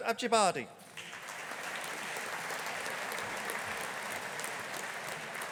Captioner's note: audience applauding